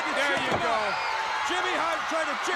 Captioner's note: crowd cheering